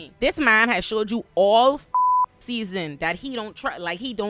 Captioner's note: beep